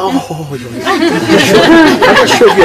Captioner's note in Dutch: gelach